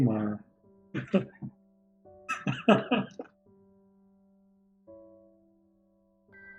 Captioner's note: laughs